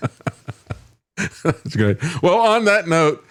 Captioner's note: laughing